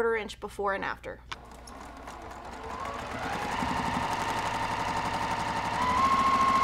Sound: sewing machine stitching

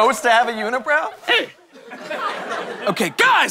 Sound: yelling

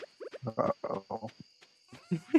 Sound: groans; laughs

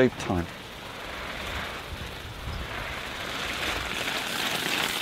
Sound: water splashing

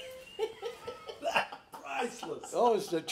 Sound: laughing

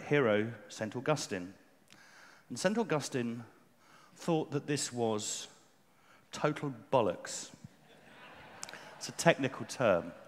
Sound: laughter

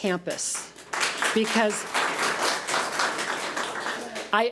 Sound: audience applauds

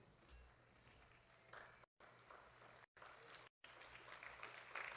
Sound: audience claps

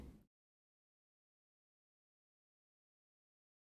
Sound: silence

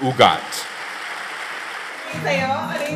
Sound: applause

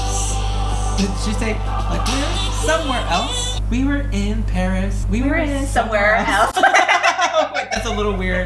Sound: laughter

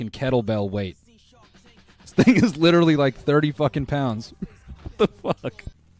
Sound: laughing

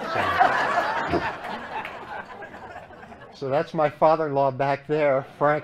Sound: laughter

